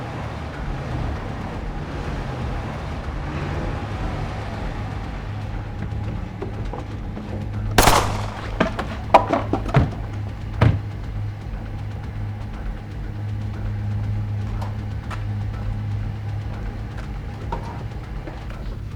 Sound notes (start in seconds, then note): 7.7 dramatic music; 7.8 gunshots boom